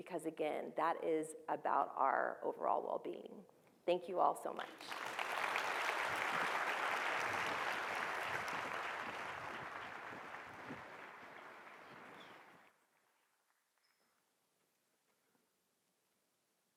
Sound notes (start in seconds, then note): 4.8 audience applauding